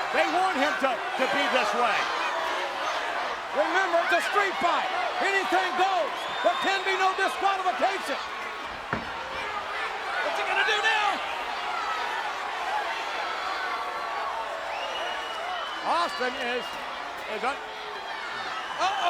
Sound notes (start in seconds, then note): 14.8 audience cheers